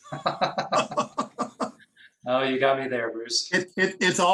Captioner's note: laughs